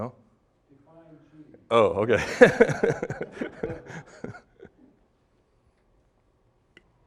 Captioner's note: laughing